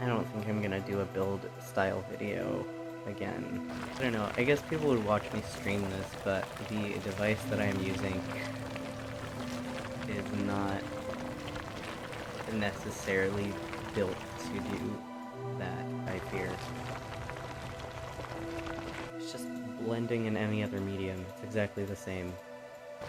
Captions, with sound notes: I don't think I'm gonna do a build-style video again. I dunno, I guess people would watch me stream this but, the device that I am using is not necessarily built to do that, I fear. [gravel sounds] It's just blending in any other medium. Exactly the same.